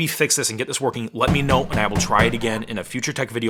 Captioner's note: door banging